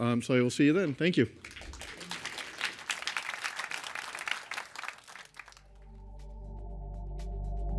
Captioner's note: applause